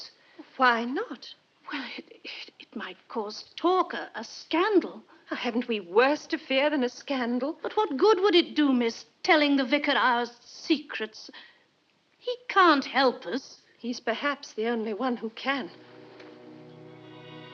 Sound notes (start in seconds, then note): none